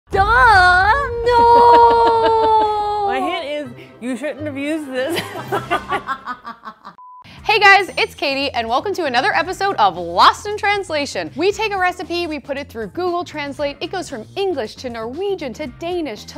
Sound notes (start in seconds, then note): 5.1 laughter